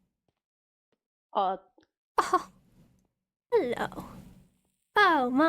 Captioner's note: laughs